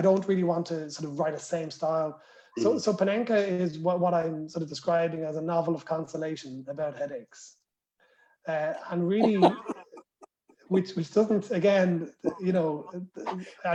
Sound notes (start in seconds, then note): 9.2 laughter